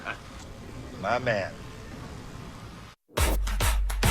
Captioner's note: laughs